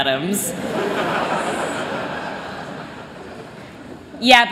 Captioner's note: laughter